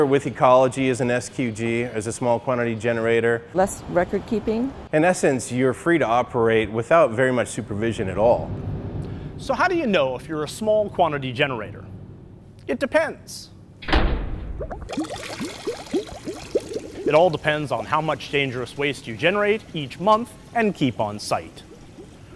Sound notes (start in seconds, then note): 13.8 thud, bubbling sounds